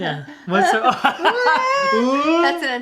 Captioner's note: laughing